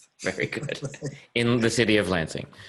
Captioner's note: laughing